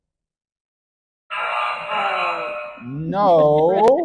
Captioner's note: error sound effect